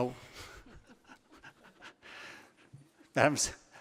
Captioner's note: laughing